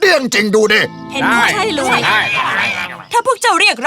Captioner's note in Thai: พึมพำเห็นด้วย